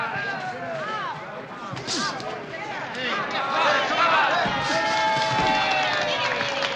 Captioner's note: crowd clamoring